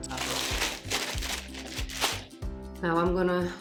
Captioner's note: ruffling of bag